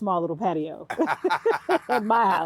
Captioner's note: both laughing